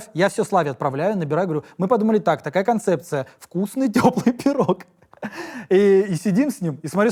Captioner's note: laughs